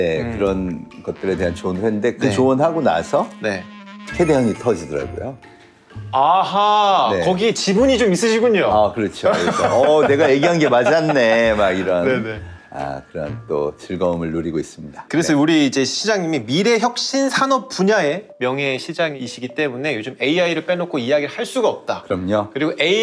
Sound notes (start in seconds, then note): 9.2 laughter